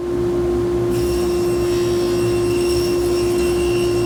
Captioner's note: saw whirring